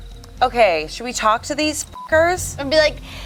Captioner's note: beep